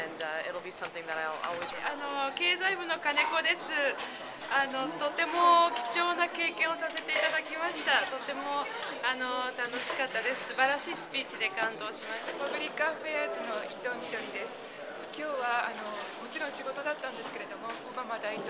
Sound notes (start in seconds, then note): 6.0 speaking japanese; 16.0 speaking japanese